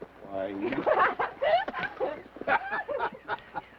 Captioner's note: Laura laughs; Theodore laughs